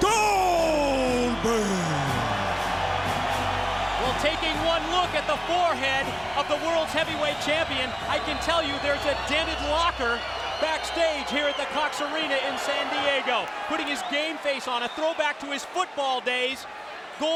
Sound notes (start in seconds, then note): 2.1 audience cheers